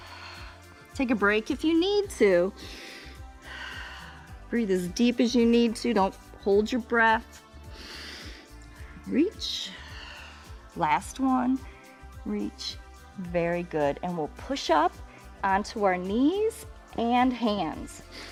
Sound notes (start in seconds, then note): 2.6 inhales and exhales; 7.7 inhales; 7.7 exhales